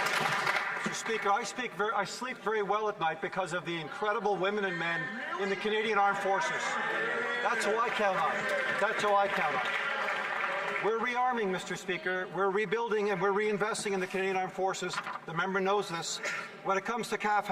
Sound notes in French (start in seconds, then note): 4.7 voix de l'interprète